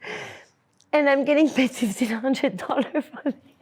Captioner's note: laughs